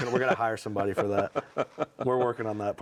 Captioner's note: laughs